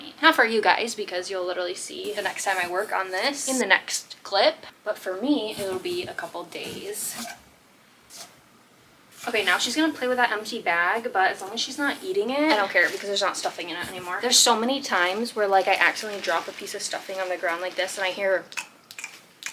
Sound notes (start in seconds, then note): 18.5 lip smacking